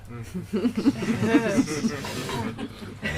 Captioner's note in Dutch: Gelach